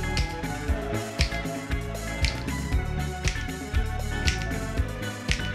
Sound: fingers snapping in rhythm

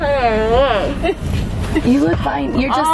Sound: laughs

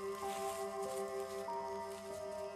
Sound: leaves crush

